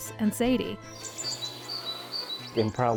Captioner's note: birds chirping